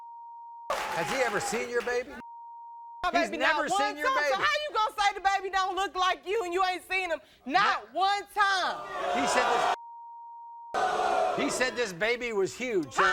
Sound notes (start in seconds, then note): 8.7 audience booing